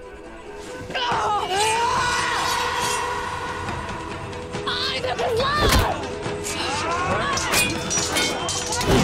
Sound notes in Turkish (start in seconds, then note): 0.8 Bağırma ve kılıç sesleri; 7.3 Çarpışma sesleri